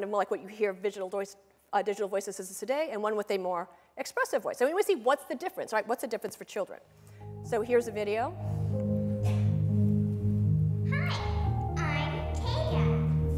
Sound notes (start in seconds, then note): 10.8 cutesy voice